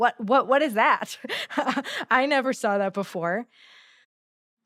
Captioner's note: chuckles